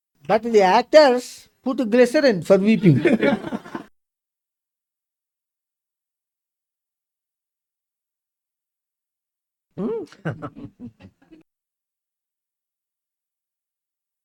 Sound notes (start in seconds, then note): 3.1 laughs